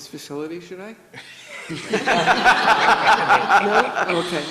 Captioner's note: everybody laughs